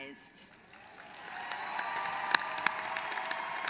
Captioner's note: applause